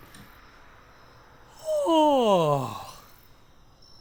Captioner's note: dramatic yawn